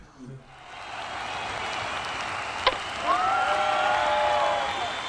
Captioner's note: chuckles; crowd cheers and chants